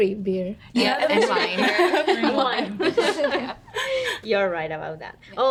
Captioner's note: women laughing and chattering